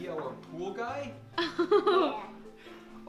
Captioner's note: laughing